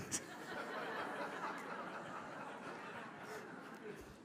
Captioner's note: audience laughs